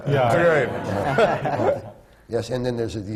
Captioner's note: laughter